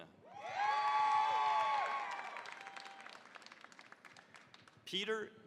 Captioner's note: cheering, applause